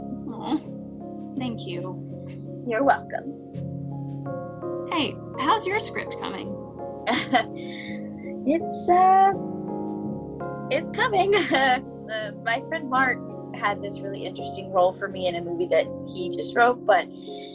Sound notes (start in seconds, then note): 7.1 chuckles nervously